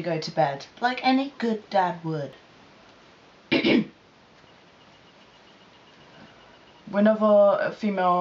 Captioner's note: ahem